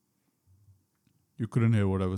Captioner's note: muted audio